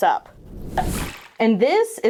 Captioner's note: air whooshes; liquid sloshes